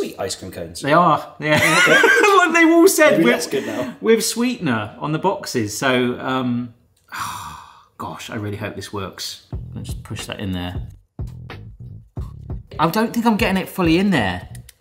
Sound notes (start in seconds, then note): 1.5 wheezes; 11.4 laid back music